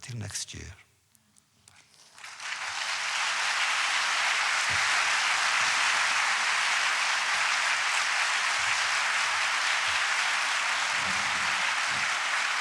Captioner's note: audience applause